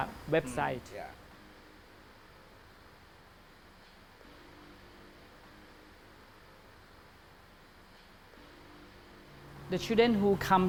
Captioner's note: awkward pause